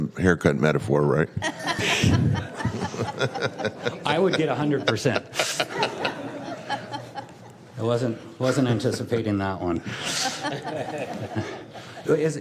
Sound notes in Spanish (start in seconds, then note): 5.7 risas